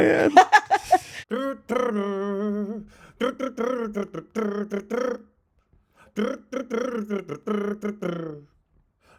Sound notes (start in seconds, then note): 0.0 laughing; 1.6 imitating music